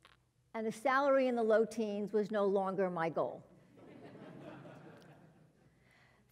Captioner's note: laugh